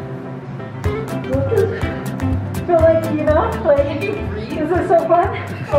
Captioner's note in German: positive Musik; lacht